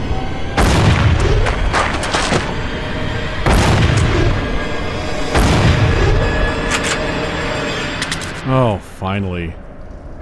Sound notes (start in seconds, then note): 0.4 blam; 3.3 blam; 5.2 blam